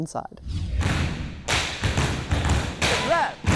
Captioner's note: tapping and stomping